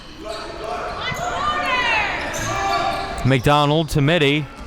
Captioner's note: audience yelling